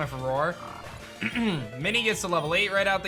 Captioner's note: clears throat